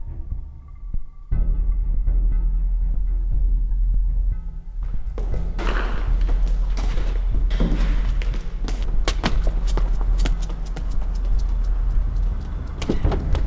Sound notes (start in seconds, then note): 1.5 intense ominous music; 4.8 quick footsteps; 9.8 receding quick footfall